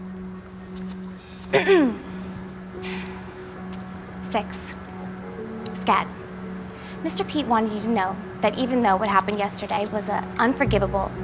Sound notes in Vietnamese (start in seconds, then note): 1.5 e hèm